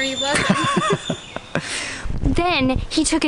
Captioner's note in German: Lachen